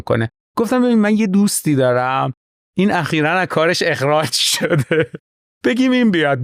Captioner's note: laughs